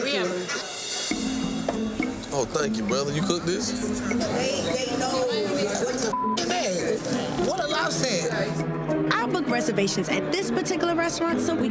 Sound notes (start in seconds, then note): 6.0 beep